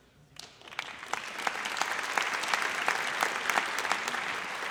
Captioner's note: audience applauds